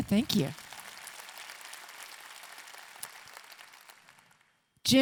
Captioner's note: audience clapping